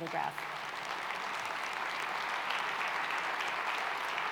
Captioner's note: clapping